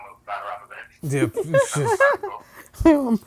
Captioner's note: laughs